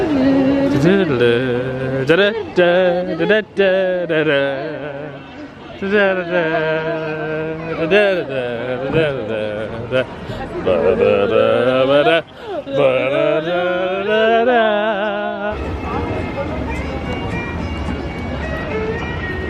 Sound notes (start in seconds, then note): 0.0 both humming tune; 15.5 upbeat music